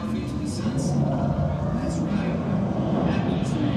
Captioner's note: people chattering